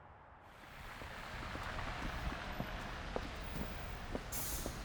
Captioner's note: traffic rumbling